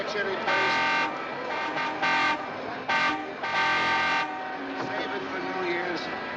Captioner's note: horn Honking